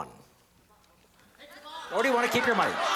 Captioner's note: audience shouting